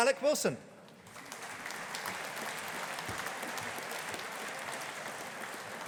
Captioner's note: audience applauding